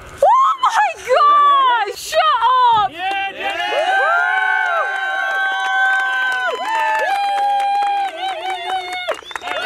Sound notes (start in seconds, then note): 2.2 all cheering